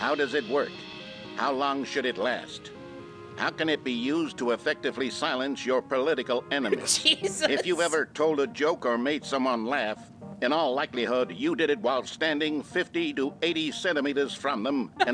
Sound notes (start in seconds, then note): 6.7 laughing